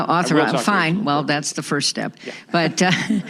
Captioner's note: laughter